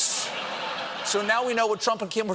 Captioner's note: laughter